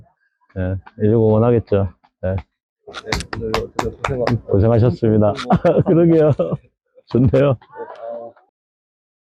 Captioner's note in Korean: 짝짝짝